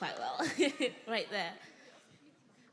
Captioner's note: laughs